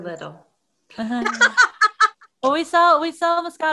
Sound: laughs

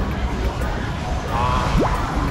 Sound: crying

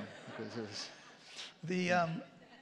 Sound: laughter

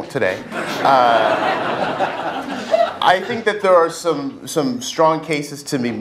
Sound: laugh

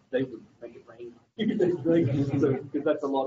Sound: laughter

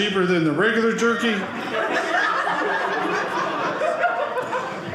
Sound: audience laughing

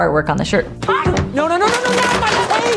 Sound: Dustin yelling

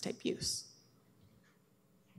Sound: audio drop

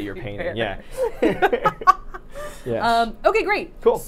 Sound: both laughing

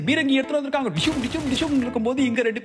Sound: Global sound effect for shooting

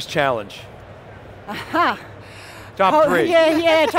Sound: laughs

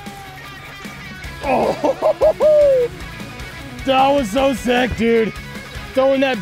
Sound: laughing

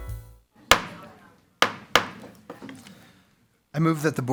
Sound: gavel pounds

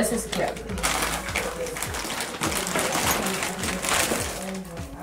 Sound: paper crinkling

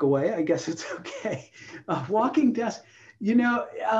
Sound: laughter

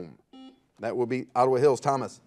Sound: buzzer buzzes

